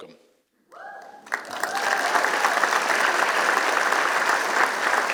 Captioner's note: applause